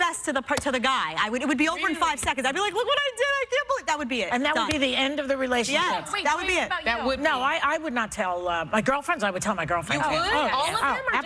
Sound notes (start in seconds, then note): none